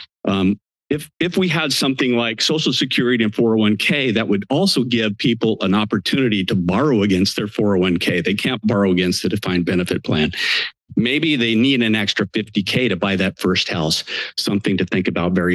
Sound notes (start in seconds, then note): 10.3 inhales; 14.0 inhales